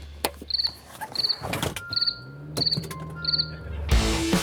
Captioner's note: crickets chirping; fast rock music